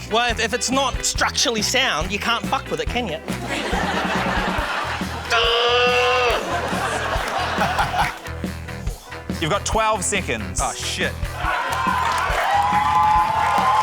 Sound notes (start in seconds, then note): 3.2 laughter; 5.2 grunts aggressively; 7.2 laughs; 11.3 cheering, applause